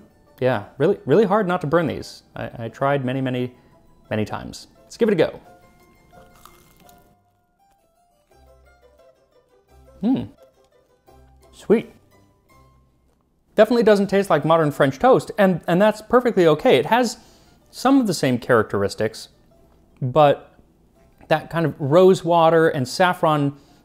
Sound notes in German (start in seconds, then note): 6.0 Knirschen